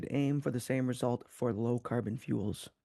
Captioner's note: speaking French